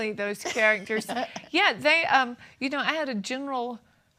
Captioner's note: laughs